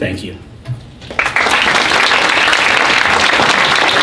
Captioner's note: applause